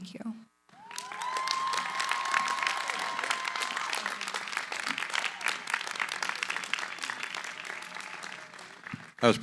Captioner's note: cheering, applause